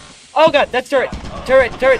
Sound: gunfire

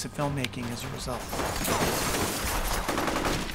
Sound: glass shattering

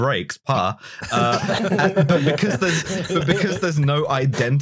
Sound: laughter

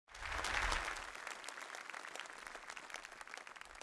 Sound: applause

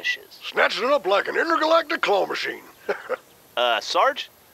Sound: laughs

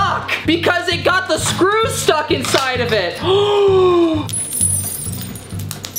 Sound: inhales

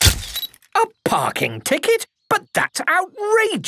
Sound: camera click

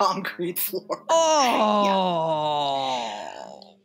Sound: crash!biff!boing!

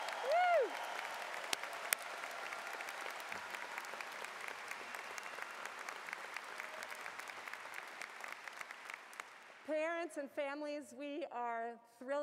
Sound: cheers and Applause

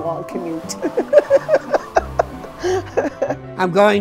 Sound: laughing

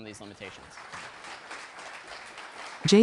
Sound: applause

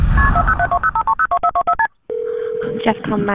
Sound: phone dialing beeping

